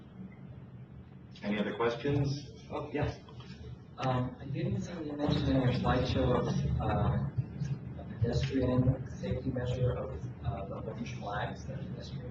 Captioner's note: moderator speaking in background